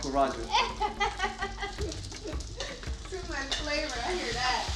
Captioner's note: laughing